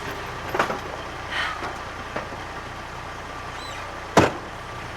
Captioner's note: Laura sighs; door bangs